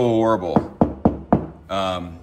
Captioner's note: knocking